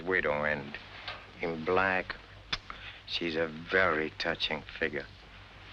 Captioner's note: kiss